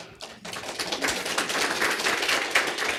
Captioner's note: applause